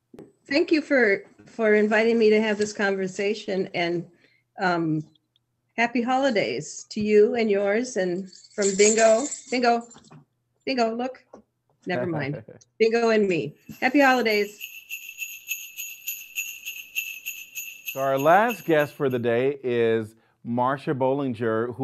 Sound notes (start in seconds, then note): 8.2 jingles bells; 12.0 laughing